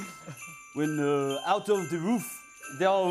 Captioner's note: cheering and laughter; French accent